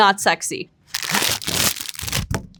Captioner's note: plastic rustling; patties thudding